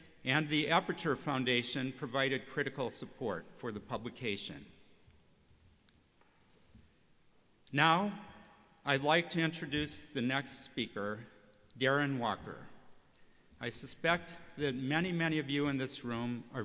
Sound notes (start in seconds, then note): none